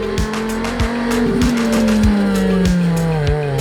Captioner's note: car engine revs